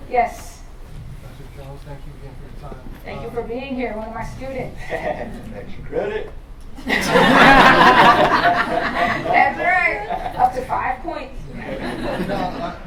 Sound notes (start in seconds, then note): 6.8 laughter